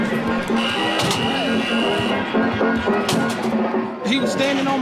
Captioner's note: buzzer